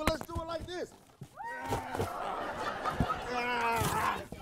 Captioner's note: crowd laughs